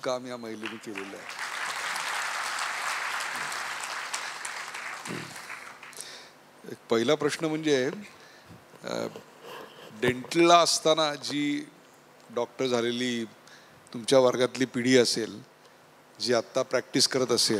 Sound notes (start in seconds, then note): 0.6 claps